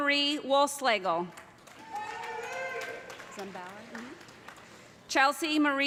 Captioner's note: cheers and applause